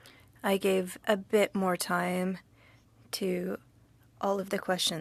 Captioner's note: speaking French